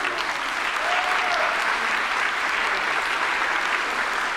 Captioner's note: audience applauding